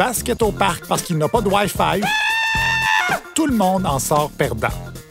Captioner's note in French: cri aigu